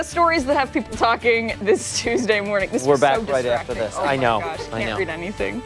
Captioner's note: laughter